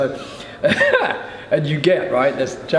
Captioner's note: chuckles